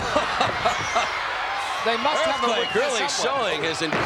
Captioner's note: laugh